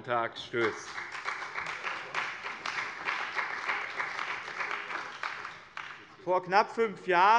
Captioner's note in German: Beifall bei dem BÜNDNIS 90/DIE GRÜNEN und der CDU